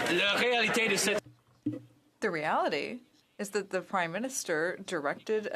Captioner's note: some Applause